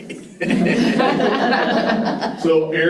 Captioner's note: participants laughing